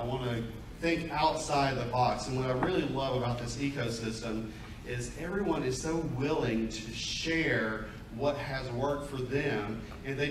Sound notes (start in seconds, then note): none